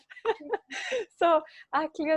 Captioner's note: laughing